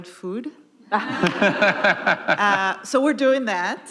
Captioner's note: audience laughing